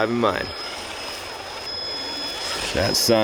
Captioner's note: engine roaring